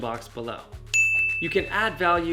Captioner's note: bell dinging